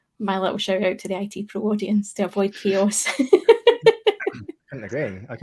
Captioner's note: laughs